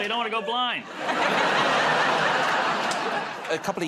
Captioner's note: laughter